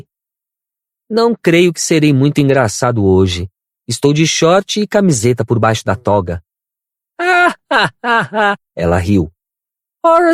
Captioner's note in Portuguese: risadas